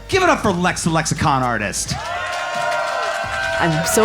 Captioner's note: audience cheering